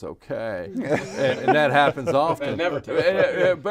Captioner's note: group laughing